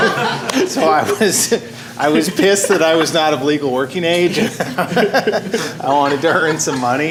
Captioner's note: laughter